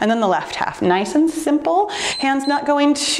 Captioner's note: timer beeps